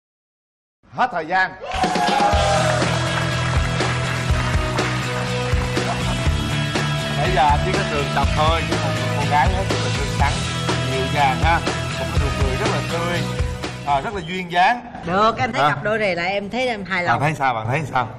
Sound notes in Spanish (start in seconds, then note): 1.6 Aplaudir